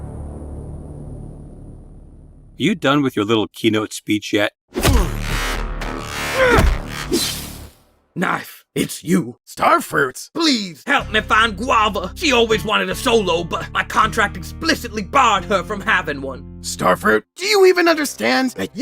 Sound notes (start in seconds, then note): 4.8 glass impact